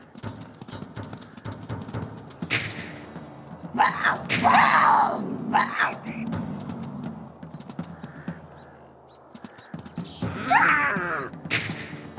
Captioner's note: cougar Attack Sounds